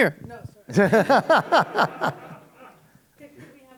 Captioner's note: laughter